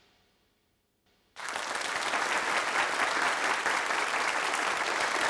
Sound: applause

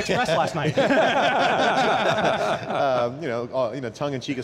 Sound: laughing

